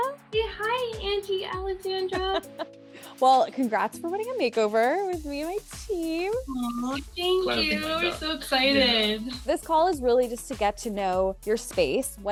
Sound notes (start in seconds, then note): 1.9 laughing